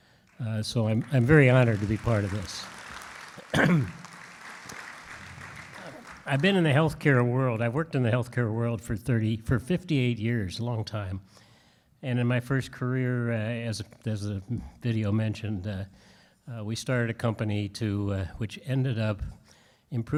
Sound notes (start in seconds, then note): 3.4 clears throat; 3.5 audience claps